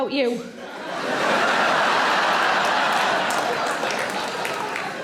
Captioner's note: audience laughing